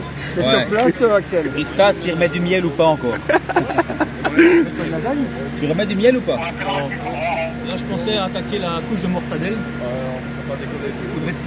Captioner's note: laughs